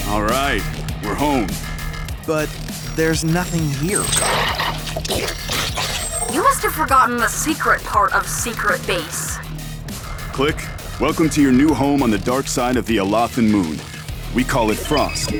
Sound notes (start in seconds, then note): 3.9 2Bells growling